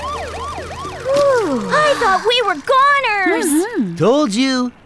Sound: Duri sighs

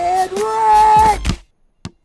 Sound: swat

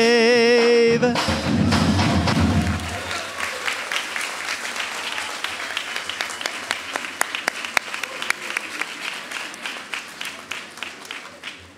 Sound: applause and cheering

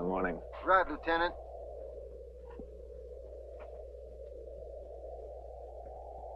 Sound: wind howling

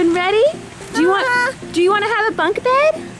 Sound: exclaims

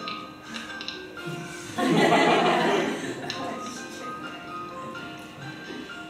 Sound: students laugh

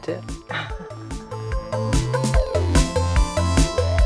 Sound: laughs

